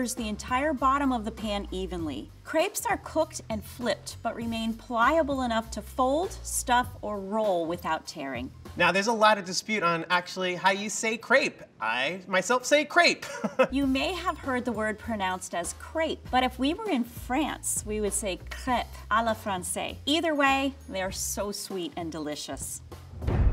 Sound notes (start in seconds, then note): 13.2 laughs